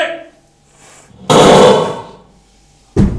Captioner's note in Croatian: striljanje puške